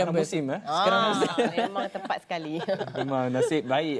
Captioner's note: laugh